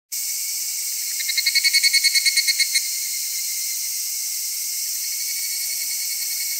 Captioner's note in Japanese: ヒグラシの鳴き声